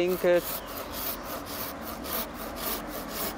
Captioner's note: traffic noise